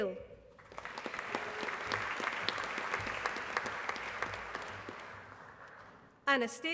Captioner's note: applause